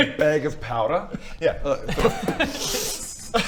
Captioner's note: poof!